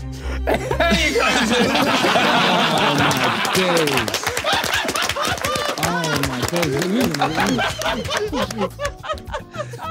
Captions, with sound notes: - There you go, Zuu. [everyone laughing] - Oh my days. Oh my days.